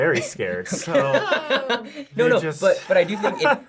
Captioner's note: laughing